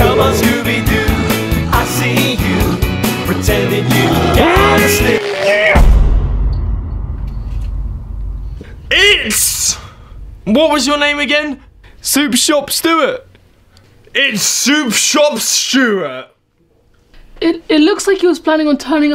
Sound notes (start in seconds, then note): 3.7 werewolf snarls; 6.4 dramatic music